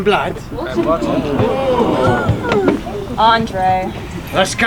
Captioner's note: audience gasp